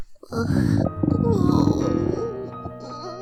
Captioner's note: groans weakly